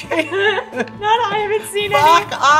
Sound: laughter

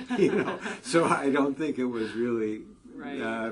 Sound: laugh

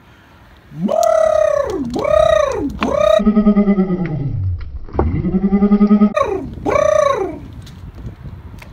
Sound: loud Cooing

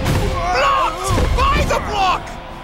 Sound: grunting

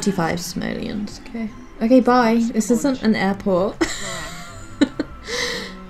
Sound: wheezes

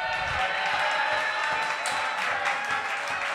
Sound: crowd cheers

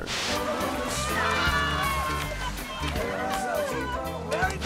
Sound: cheering

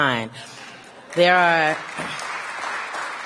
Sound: applause

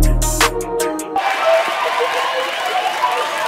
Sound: applause

